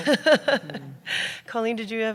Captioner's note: laughter